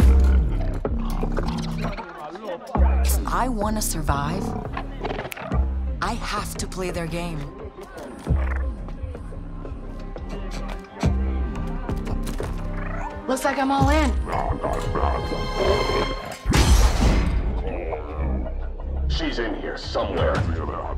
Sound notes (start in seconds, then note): 0.3 indistinct conversations; 5.2 snaps fingers; 12.6 chirps